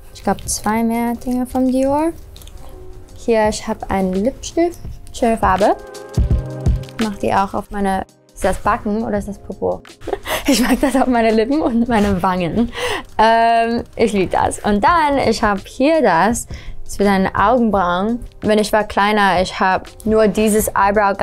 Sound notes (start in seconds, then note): 10.0 laughs